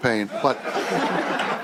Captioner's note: chuckling